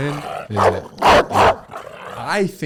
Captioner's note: dog barks